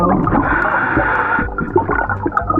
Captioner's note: oxygen tank hissing; oxygen bubbling in water